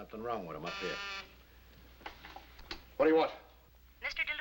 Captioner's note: buzzing